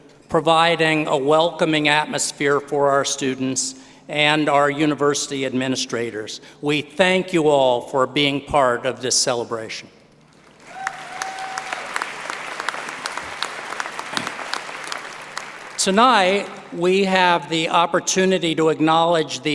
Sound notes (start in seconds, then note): 13.1 applause